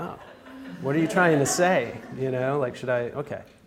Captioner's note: audience laughs